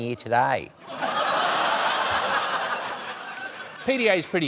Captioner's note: laughter